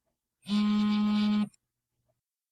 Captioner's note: cell phone buzzing